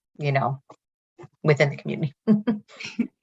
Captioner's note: chuckles